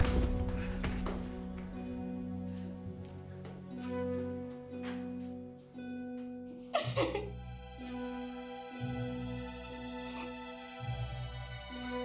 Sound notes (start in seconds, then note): 0.0 soft dramatic music; 6.7 crying; 8.7 soft dramatic music